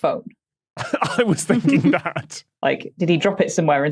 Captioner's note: laughs